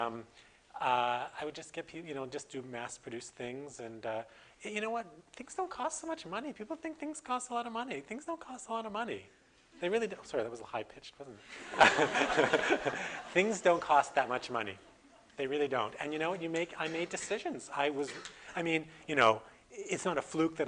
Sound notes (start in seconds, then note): 11.5 audience: Laughter